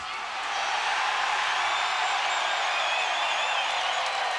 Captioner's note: crowd cheers